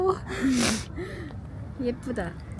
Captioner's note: sniffle